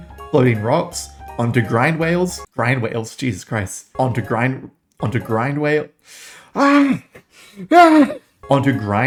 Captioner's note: wails; screams